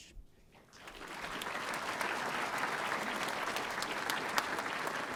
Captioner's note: audience applauding